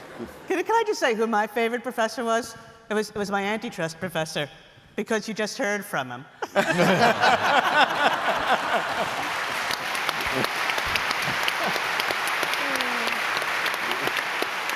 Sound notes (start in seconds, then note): 6.4 laughter; 7.0 applause